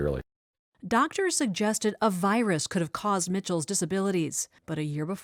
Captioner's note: voice-over